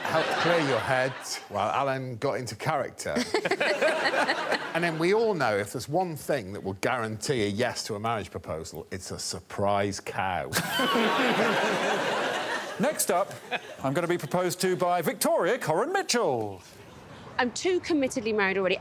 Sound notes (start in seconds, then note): 10.6 all laughing